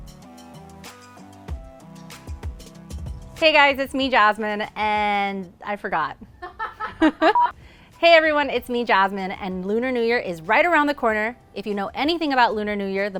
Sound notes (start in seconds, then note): 0.0 gentle music; 6.4 laughs